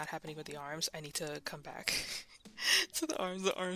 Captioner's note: laughs